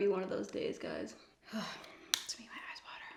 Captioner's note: sighs